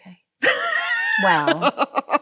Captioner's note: Chloe laughs